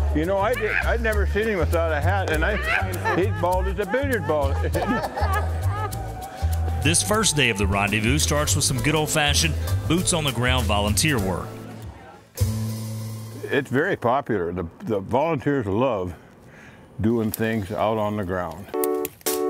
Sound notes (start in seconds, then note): 4.5 woman laughs